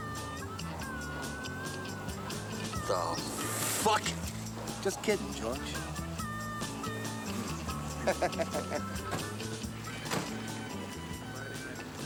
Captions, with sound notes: What the fuck! Just kidding, George. [ Chuckles ]